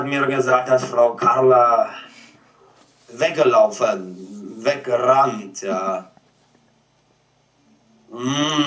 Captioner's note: with foreign accent